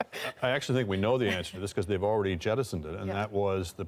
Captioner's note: laughter